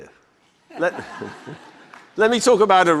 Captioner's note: audience laughter